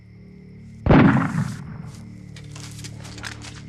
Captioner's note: gun shot